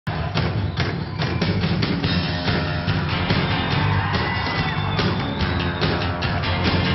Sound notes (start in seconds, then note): 0.0 crowd cheers; 0.1 electric instrumental music